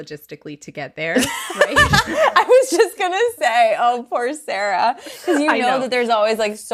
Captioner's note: laughs